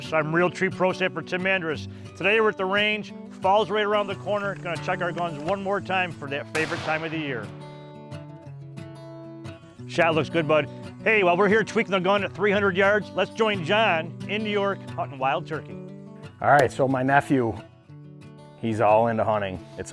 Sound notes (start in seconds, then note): 6.5 rifle shoots